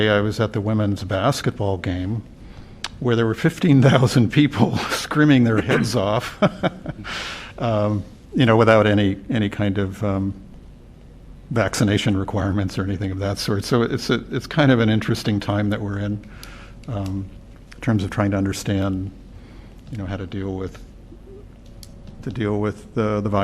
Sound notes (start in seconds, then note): 5.5 laughter